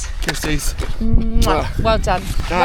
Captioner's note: smacks kiss